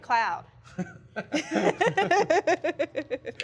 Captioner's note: laughs